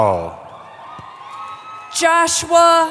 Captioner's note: cheering